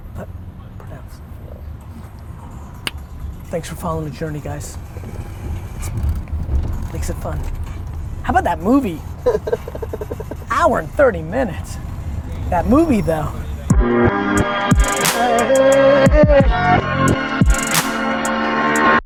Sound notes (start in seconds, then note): 2.8 clicks tongue; 8.9 laughs